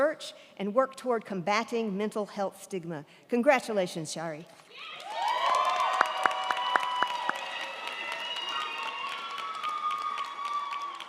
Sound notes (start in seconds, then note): 4.7 crowd cheering; 4.9 crowd clapping